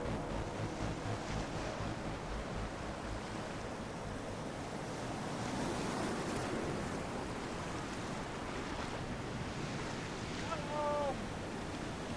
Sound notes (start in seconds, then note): 5.3 waves crashing